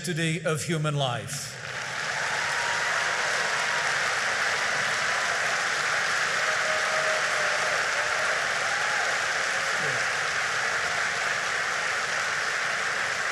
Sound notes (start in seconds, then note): 1.4 applause